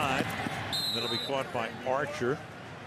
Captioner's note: whistle